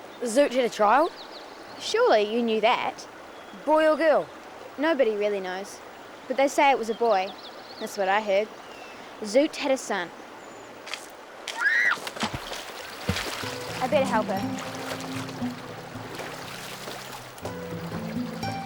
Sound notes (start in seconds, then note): 11.5 screams; 16.0 soft music